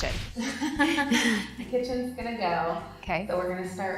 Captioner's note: laughing